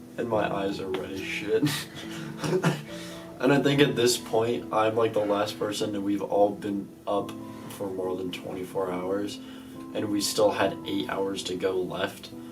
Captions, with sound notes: and my eyes are red as shit. *coughs* and I think at this point, I'm like the last person that we've- all been- up for more than 24 hours and we still had 8 hours to go left.